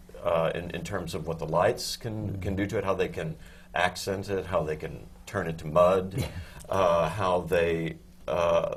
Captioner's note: laughs